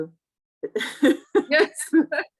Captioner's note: laughing